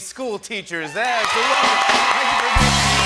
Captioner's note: cheering and applause